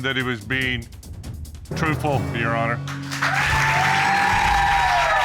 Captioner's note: audience cheering